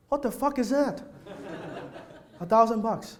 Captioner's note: audience laughs